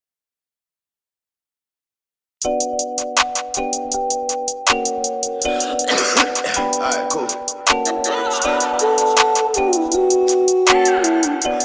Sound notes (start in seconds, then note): 5.5 coughing; 7.9 vocalizing